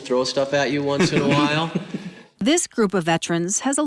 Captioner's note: laughter